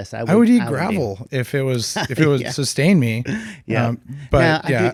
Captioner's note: laughs